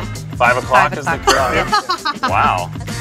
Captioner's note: laughter